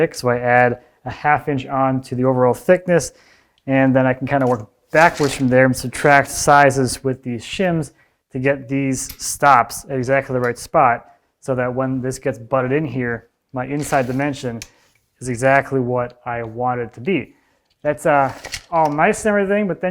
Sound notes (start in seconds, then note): none